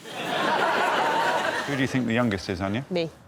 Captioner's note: laughter